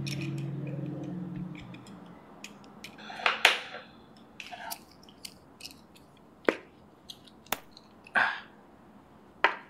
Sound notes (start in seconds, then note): 2.6 clicking